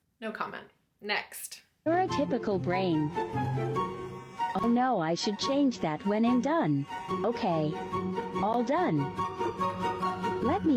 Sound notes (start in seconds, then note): 2.0 computerized Voice; 8.8 playful music